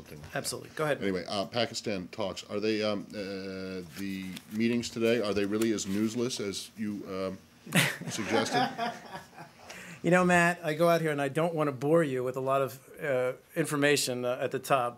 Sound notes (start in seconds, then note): 7.7 laughter